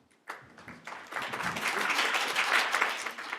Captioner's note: applause